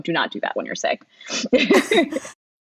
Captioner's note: laughing; laughs